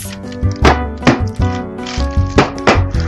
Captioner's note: thud